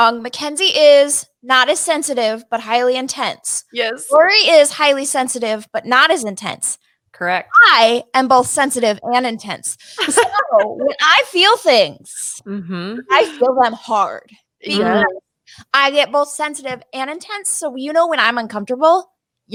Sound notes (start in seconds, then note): 10.0 laughing